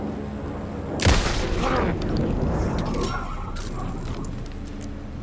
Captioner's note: gunshot; grunting; ominous music